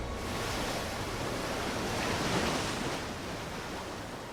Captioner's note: waves crashing